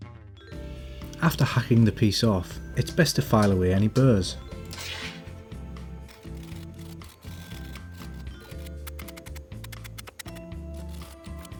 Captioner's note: cutting